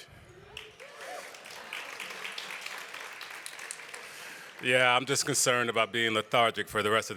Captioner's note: applause